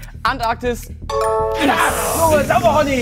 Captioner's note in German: Klingeln